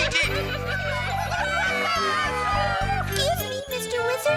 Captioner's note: cheering